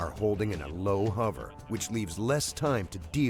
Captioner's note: voiceover